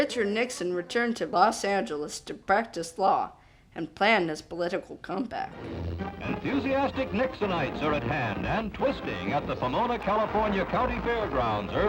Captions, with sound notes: Richard Nixon returned to Los Angeles to practice law and plan his political comeback. - [Voiceover] Enthusiastic Nixonites are at hand, and twisting, at the Pamona, California County Fairgrounds